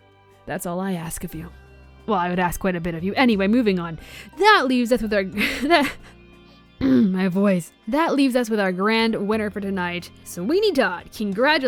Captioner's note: clears throat